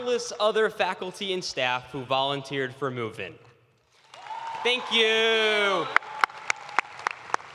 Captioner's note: cheers and applause